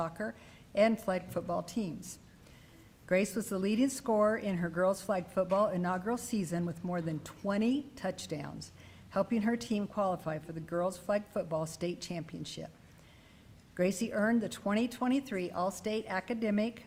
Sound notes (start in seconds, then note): none